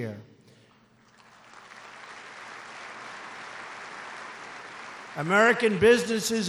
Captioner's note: applause